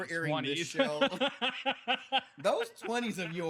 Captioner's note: laughing